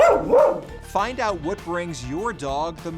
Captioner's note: dog barks